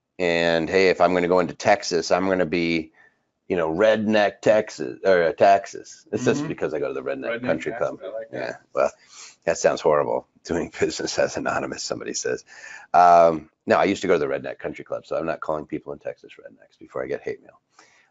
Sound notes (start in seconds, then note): 11.2 chuckles